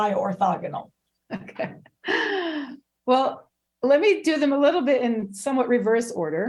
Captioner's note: laughing